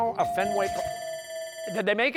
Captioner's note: buzzer sounds, bell ringing